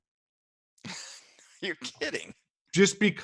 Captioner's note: laughs